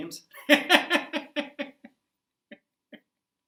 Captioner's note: laughter